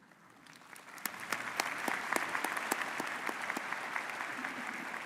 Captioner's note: audience applauding